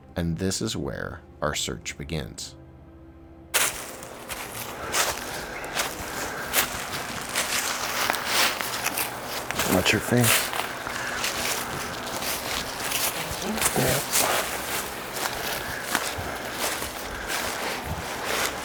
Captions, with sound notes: And this is where our search begins. (leave crunching) Watch your feet. (leaves crunching)